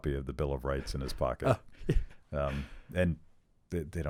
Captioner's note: laughs